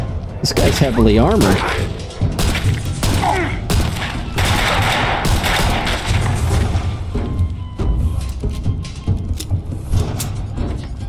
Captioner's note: gunshots